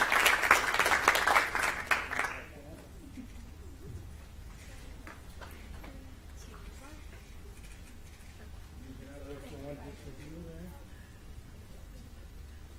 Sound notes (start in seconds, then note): 2.1 applause